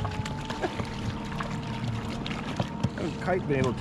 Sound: chuckling; fish splashing

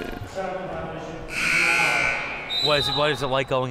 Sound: buzzer sounding

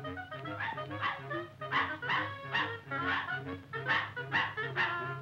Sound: Pudgy barking

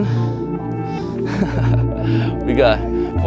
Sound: laughing

